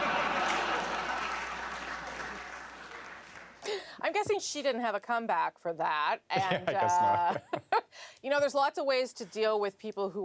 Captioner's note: laughter